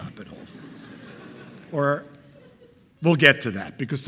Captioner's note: audience laughing